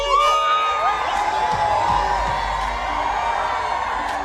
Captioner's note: crowd cheering